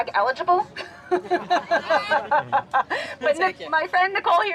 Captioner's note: laughing